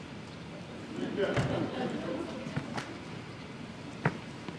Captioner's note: audience laughs